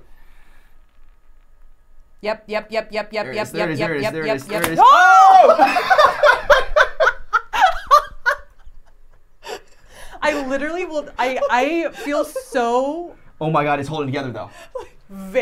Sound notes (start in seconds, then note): 8.2 laughing